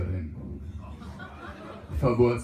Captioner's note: laughter